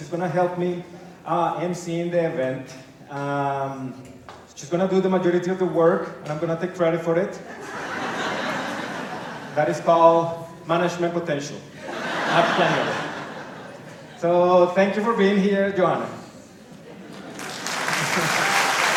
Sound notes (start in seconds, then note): 7.4 laughter; 11.8 laughter; 17.2 applause